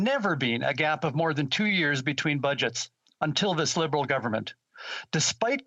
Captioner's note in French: voix de l'interprète